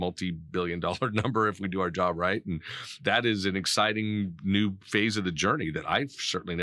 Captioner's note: laughing